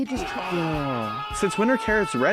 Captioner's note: man screaming